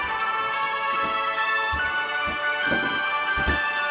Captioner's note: christmas music playing; hammer banging